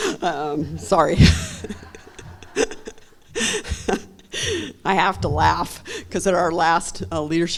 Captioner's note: laughing